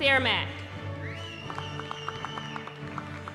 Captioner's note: whistling